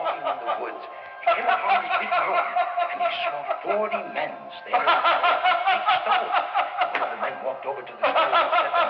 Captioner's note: laughter; laughter